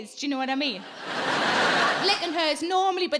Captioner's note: audience laughing